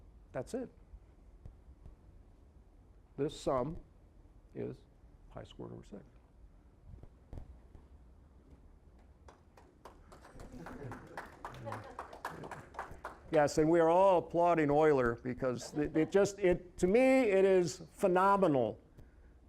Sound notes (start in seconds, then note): 9.2 applause